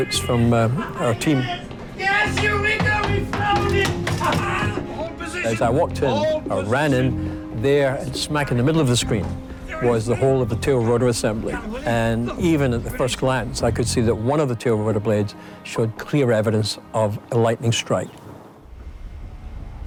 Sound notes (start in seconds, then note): 2.0 crew members shouting excitedly